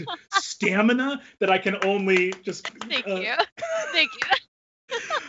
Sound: claps

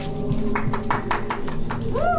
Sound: brief clapping

